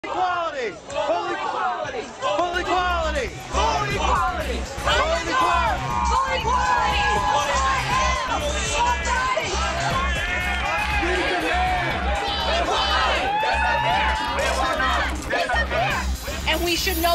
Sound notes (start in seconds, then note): 0.1 chanting